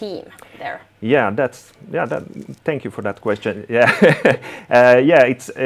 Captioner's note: chuckles